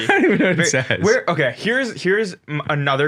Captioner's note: laughs